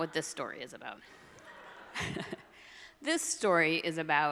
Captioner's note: all laughs